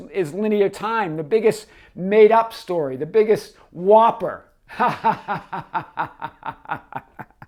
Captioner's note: laughs